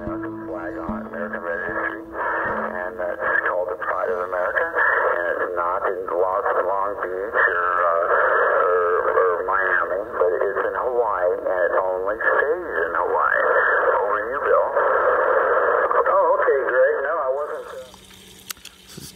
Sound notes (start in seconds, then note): 0.3 voice on radio